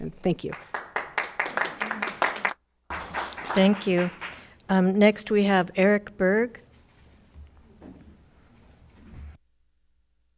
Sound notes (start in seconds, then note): 1.2 crowd applauding